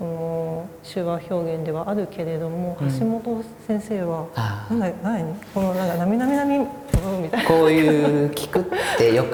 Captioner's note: laugh